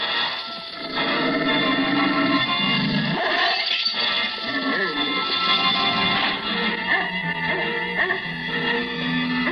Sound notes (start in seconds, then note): 5.6 dog barking